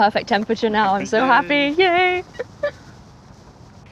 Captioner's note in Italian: esulta